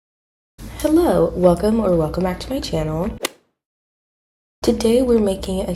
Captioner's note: golf hit sound effect